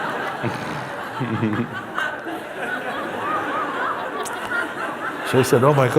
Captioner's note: Lachen